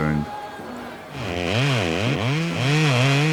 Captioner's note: chainsaw whirring